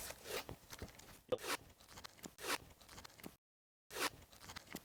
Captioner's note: tape swishing